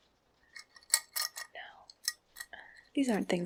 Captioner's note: jewelry clinking